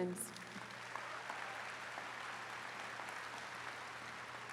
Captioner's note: attendees clapping